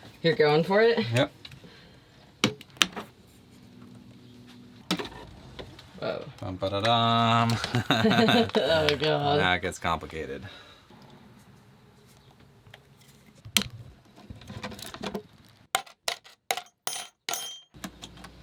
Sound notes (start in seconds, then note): 7.3 laughing